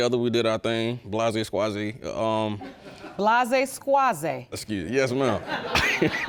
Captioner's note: chuckles